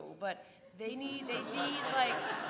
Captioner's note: laugh